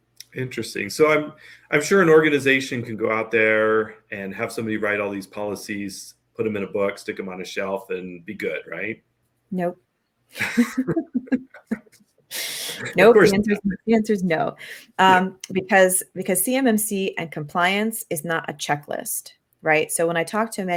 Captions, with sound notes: Interesting. I'm sure an organization can go out there and have someone write all these policies, put them in a book, stick them on a shelf and be good? Right? Nope? [Laugh] Of course not. The answer's no. Because CMMC and compliance is not a checklist. Right? So, when I talk to